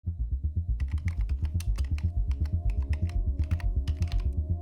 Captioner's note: keys clicking